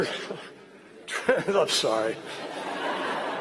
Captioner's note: laughter